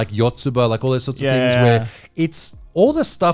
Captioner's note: all laughing